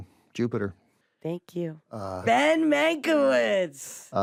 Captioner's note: shouts